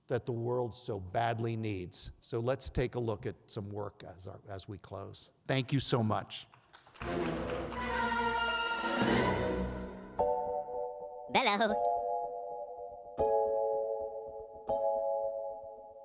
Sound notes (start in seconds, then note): 6.6 audience applauds; 7.0 dramatic music; 13.3 gentle music